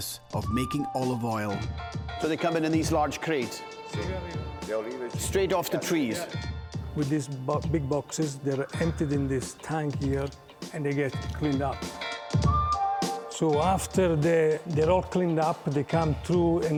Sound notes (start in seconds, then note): 4.3 speaking Italian; 12.1 mellow funky music